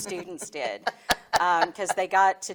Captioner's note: laughing